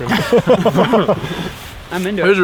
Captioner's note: all laugh